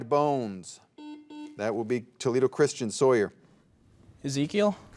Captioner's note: soft beeping